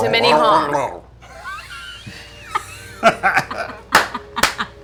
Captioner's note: laughter